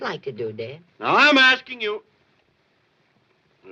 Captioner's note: shouting